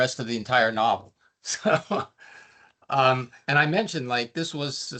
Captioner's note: chuckling